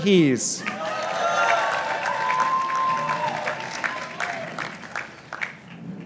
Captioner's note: participants applauding